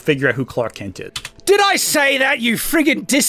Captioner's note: space bar clacks